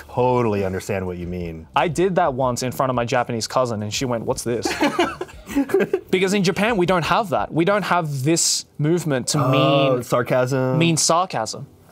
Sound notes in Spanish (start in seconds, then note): 4.6 ríe